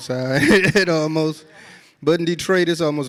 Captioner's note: audience laughs